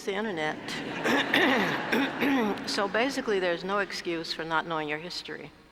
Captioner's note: laugh